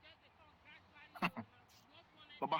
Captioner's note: chuckles